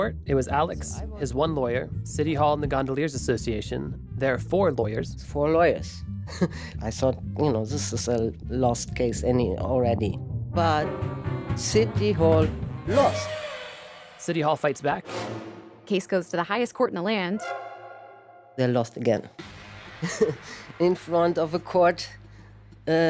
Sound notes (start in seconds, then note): 8.6 laughs; 19.8 laughs